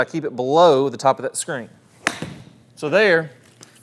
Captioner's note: club whacks